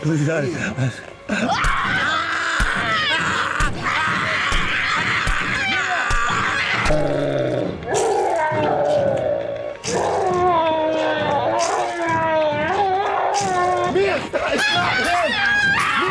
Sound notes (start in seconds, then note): 1.4 Screaming from Mia and from man; 2.5 gory sound of repeated stabs from claw